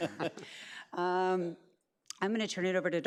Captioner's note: laughs